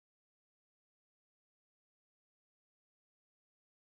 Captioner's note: none